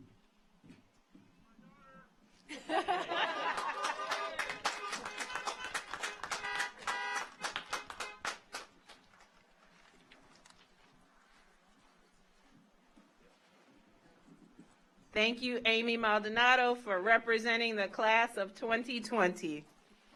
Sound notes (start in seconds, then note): 2.5 audience laughs; 3.1 audience applauds; 4.4 car horns honking